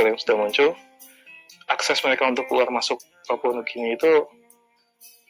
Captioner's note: talking in Bahasa Indonesia